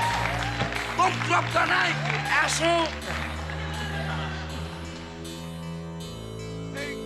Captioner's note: screams